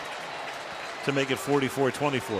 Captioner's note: cheering